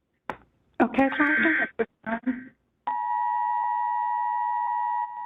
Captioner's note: EAS tones